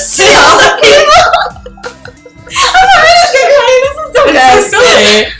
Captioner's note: uncontrollable giggling